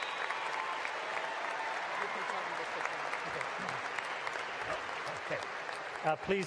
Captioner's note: applause